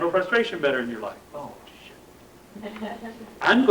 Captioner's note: laughter